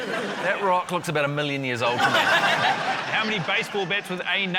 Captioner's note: laughter